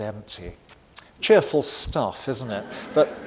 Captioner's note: audience laughing